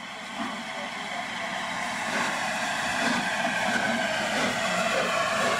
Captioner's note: train leaves station